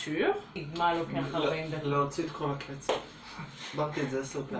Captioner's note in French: en Hébreu